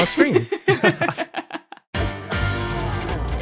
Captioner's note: group chuckling